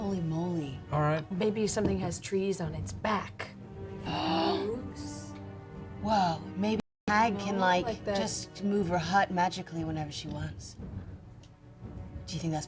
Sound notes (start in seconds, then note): none